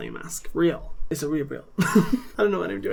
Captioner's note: laughs